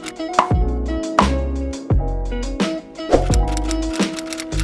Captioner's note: typewriter clicking; groovy music; popping; typewriter clicking